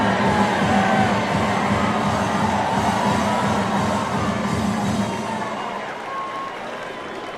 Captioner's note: cheers & applause